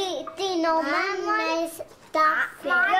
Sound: background chatter

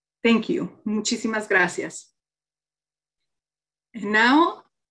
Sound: speaking in foreign language

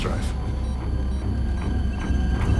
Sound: beeping

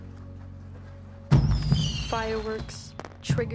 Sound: fireworks explode

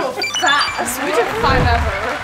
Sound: high-pitched beeps

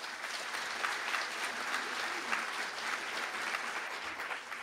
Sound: applause

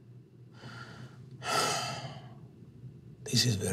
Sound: sighs

